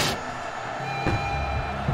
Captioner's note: marching theme; stomp